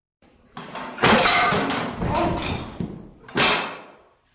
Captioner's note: clatter